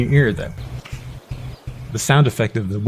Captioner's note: rhythmic wind SFX